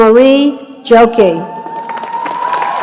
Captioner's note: applause